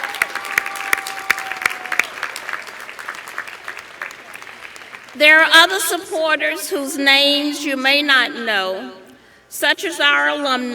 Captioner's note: applause